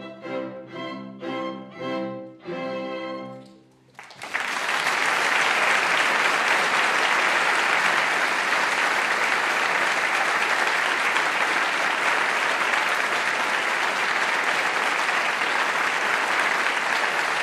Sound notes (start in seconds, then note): 5.4 applause